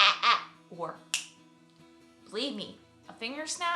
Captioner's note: finger snap